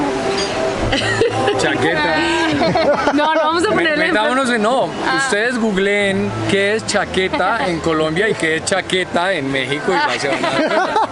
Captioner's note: laughter